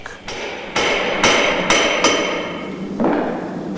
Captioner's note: sound of hammering